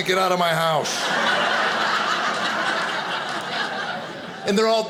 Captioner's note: audience laughing